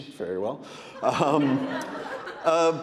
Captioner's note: audience laughing